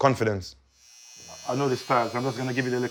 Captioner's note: clippers buzzing